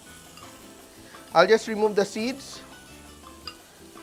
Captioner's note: sizzles